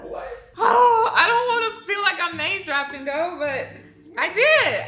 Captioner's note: sighs